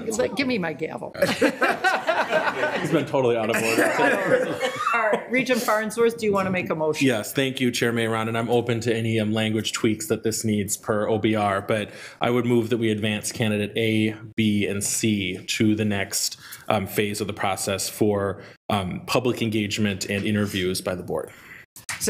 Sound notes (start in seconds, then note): 1.2 attendees laughing